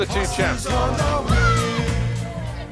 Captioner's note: shouts